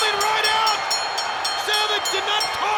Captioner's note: bell rings